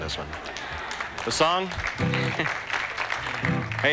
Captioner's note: applause